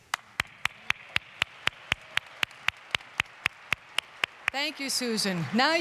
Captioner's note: applause